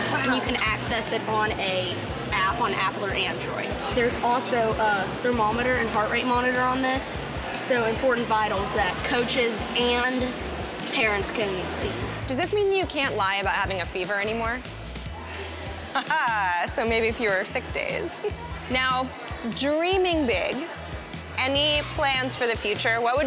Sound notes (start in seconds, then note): 15.7 laughs